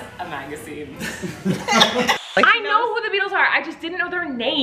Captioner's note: laughing